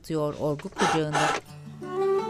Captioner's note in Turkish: Üfleme sesi